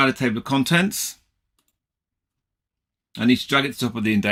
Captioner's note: mouse clicking